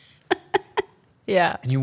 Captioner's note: laughs